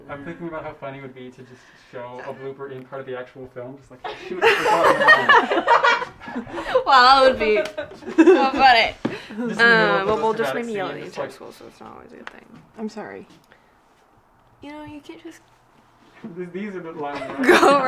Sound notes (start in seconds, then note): 4.0 all laughing